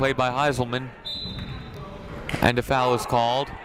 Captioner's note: whistle blows